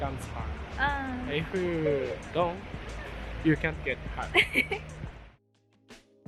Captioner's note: laughs